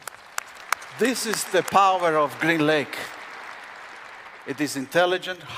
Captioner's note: applause